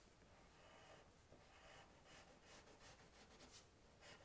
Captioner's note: pencil scratching